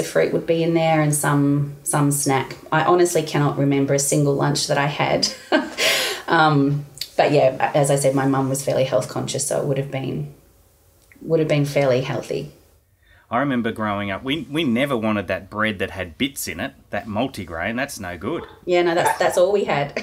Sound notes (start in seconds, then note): 5.2 laughing; 18.9 both laughing